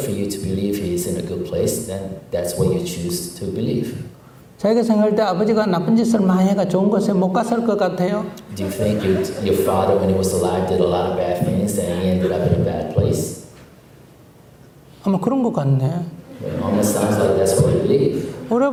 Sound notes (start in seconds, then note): 12.2 audience Laughter